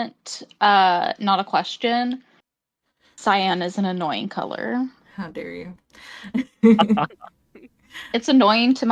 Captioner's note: laughs